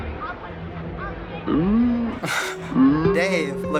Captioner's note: laughs wryly; sloth lowing; sentimental music